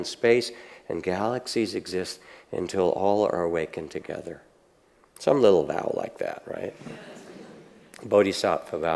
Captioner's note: audience laughs